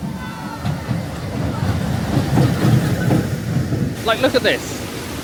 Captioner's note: train running